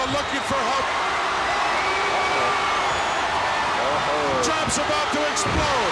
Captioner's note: audience cheers